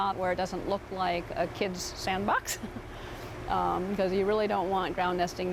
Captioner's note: giggles